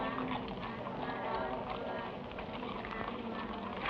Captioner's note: people praying